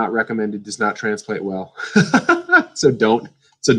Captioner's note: laughs